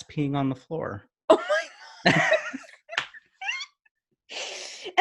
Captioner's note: laughs